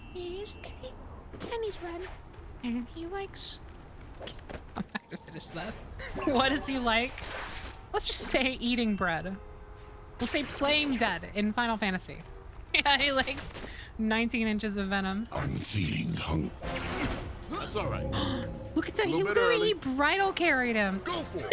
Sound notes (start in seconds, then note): 4.8 laughing; 16.5 Peter grunts; 18.7 gasps